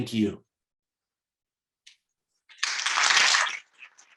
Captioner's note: applause